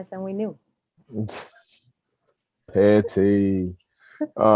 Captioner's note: laughs